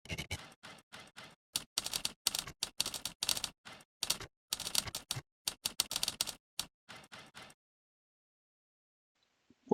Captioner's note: old school Typewriter Sounds